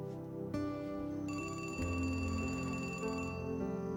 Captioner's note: phone ringing